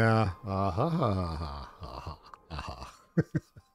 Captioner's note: laughs